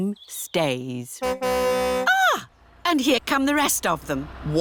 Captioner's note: car horn tootles